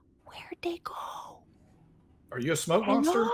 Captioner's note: none